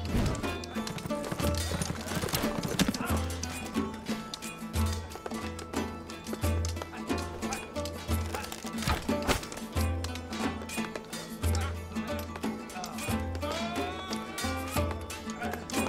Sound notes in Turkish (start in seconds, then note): 0.9 Nal sesleri